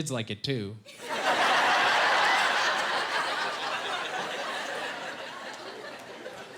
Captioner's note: laughing